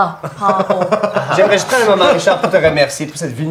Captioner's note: giggles